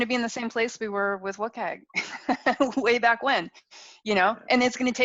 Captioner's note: laughs